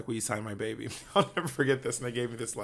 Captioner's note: laughs